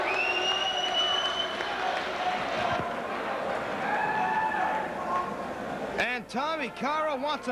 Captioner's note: crowd cheering